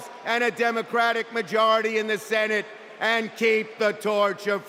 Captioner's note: cheers and applause